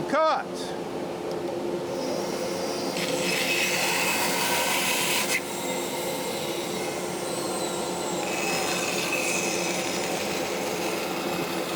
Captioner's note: saw whirring